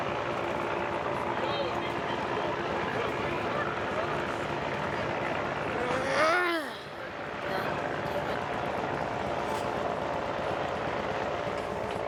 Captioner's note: crowd chattering